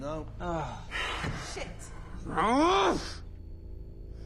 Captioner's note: grunts